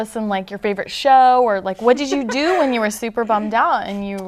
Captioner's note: laughter